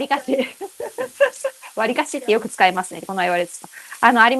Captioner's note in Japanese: 笑い